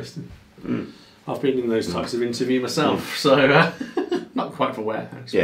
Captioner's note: laughs